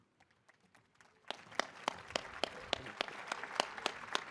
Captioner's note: audience applauding